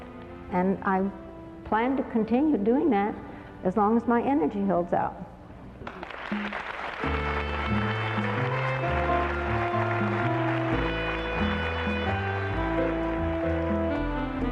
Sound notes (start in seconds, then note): 11.0 applause